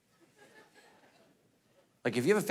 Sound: congregation laughing

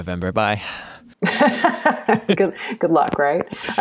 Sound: laughter

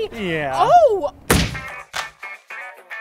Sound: thud

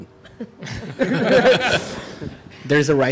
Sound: laughter

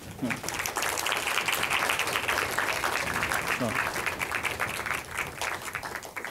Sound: applause

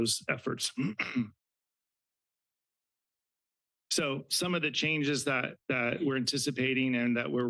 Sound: clears throat

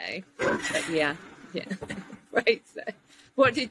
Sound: laughs

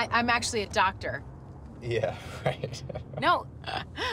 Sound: chuckles; chuckling

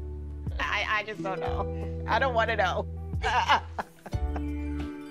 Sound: laughs

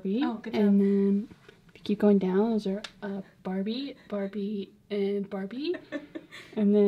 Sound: laughs

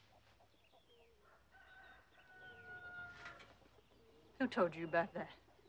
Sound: rooster crowing

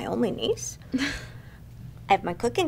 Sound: Grace sighs

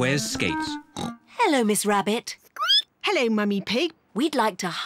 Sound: snorts; squeaks

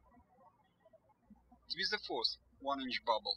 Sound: birds chirping

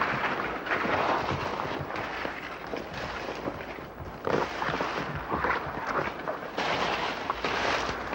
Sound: sound of crunching steps

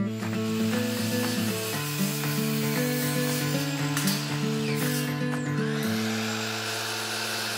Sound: upbeat music; wood sawing

